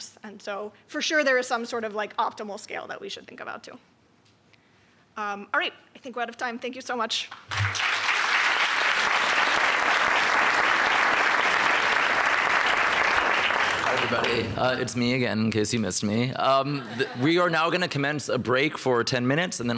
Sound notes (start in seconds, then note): 7.3 applause; 16.7 laughter